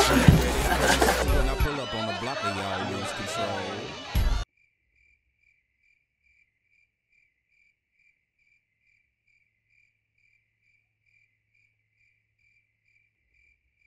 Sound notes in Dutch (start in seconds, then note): 4.2 krekels tjilpen